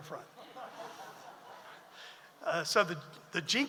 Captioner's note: audience laughs